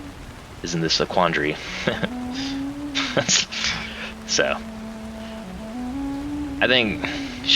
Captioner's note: laughs